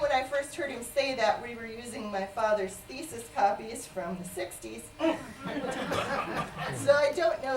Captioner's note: laughter